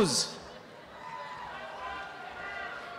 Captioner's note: applause